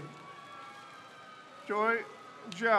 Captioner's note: crowd cheers